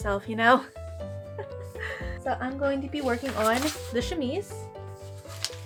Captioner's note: laughter